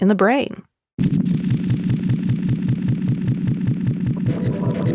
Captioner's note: electronic fizzling